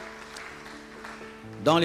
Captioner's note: applause